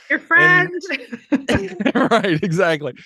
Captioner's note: laughing